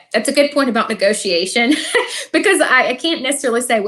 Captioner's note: laughs